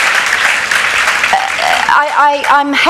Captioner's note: applause